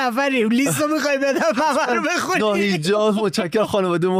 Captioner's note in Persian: خنده